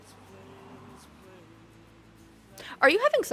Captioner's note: none